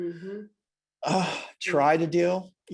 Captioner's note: sighs